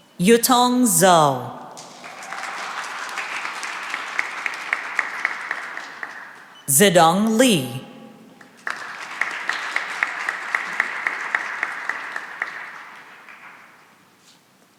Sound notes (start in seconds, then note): 1.7 cheering and applause; 8.4 applause